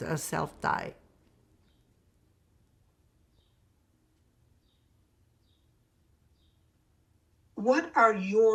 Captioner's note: pauses 6 seconds